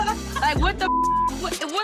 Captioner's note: beep